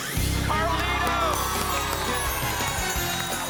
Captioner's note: applause and cheering